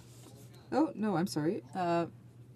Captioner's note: speaking French